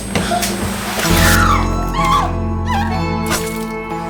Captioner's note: Paige moaning